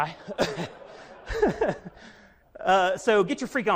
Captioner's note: audience laughs